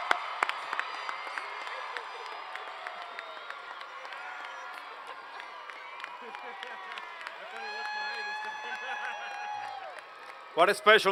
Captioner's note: cheers and Applause